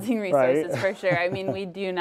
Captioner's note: laughs